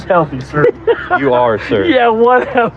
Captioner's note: laughs